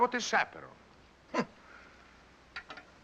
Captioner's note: scoffs